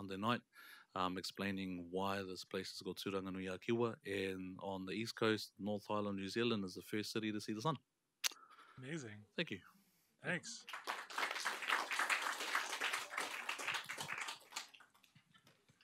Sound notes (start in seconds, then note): 10.6 applause